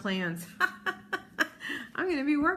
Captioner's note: laughs